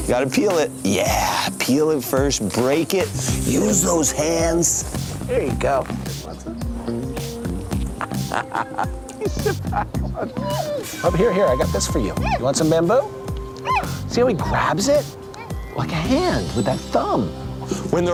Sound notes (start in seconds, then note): 7.7 chuckles